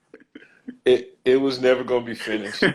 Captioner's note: laughs